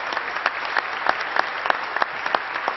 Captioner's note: applause